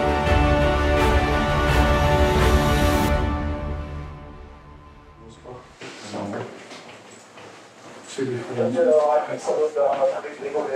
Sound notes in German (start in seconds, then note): 8.2 Stimmengewirr